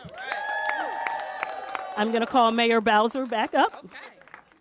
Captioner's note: applause